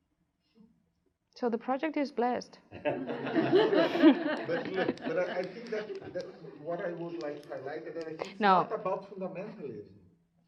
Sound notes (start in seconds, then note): 2.8 audience laughs; 7.7 murmurs